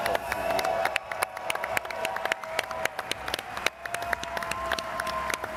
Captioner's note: all clapping and cheering